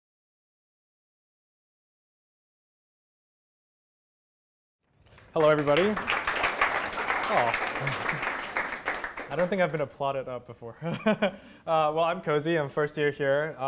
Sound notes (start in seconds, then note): 7.8 applause; 10.8 laughter